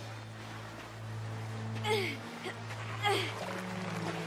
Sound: grunting

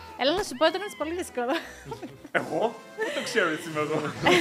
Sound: laughs

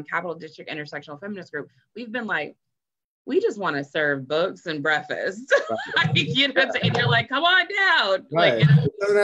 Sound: laughs

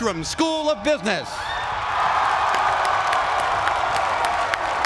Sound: applause

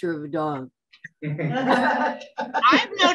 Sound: laughter

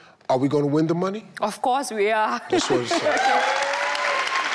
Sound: audience clapping and cheering; clapping

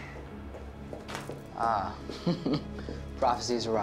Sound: chuckles

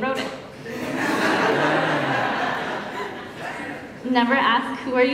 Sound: laughter

